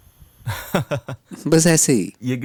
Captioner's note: man laughs